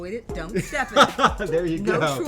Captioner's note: laughs